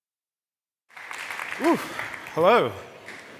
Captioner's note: applause